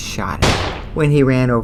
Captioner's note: firing gun shot